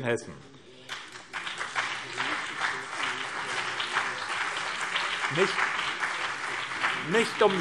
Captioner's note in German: Beifall BÜNDNIS 90/DIE GRÜNEN und CDU